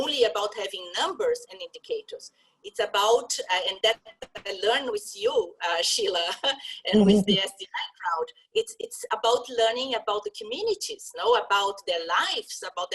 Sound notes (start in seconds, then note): 6.9 laugh